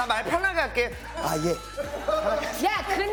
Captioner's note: politely